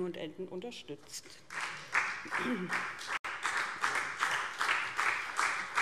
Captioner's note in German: Beifall SPD und vereinzelt BÜNDNIS 90/DIE GRÜNEN